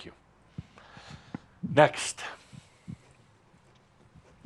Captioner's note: whispers